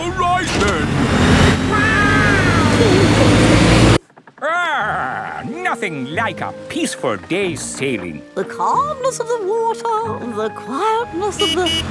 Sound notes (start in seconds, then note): 1.6 laughing; 11.2 honking